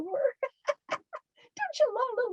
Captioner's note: laughs